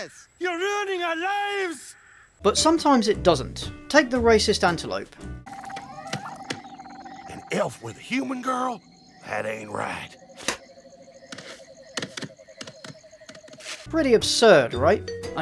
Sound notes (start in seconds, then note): 5.3 chirping of night creatures; 10.4 spits